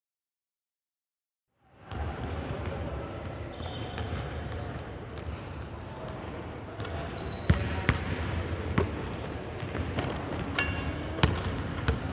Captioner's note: balls Bouncing